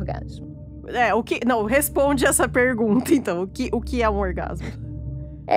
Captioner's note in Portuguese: risos